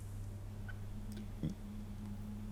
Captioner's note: none